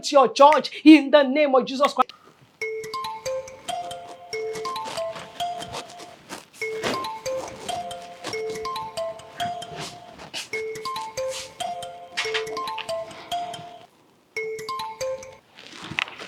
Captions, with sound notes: el nombre de Jesucristo (teléfono sonando)